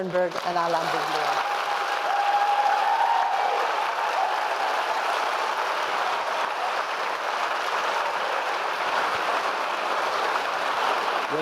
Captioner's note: applause